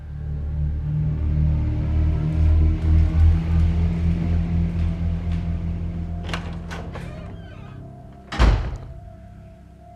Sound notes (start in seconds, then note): 0.1 suspenseful music; 6.1 door creaks